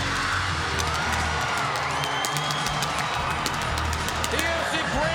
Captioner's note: audience cheering